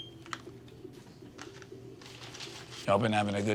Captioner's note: scanner beeping